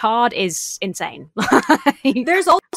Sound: laughs incredulously

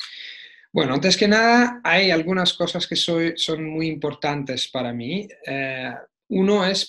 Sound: Spanish

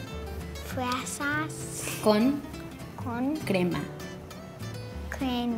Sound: speaks foreign language

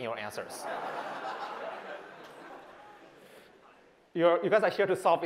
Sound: laughter

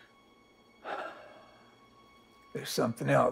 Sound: Josiah sighs

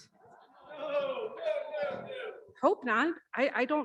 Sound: audience cheering

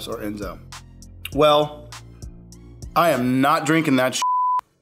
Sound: beep

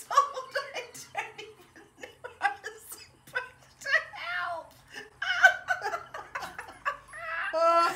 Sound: laughing so much I can hardly breathe

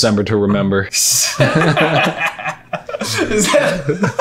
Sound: laughing

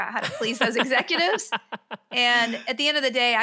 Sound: laughs

